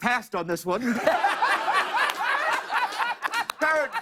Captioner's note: laughter